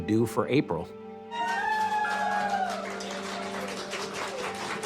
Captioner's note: people applauding